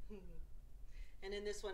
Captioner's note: chuckles